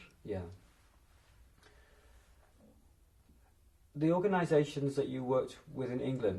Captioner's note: pauses for 3 seconds